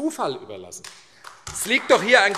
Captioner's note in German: Beifall AfD